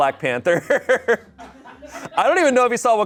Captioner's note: audience laughing